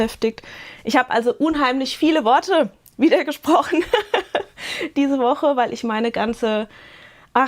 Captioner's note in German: gelächter